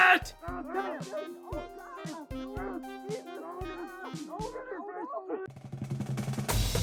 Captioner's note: they fight muffledly